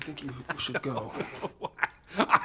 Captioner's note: man laughing